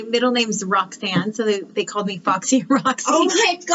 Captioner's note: laughs